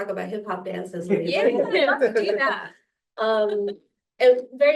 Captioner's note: laughter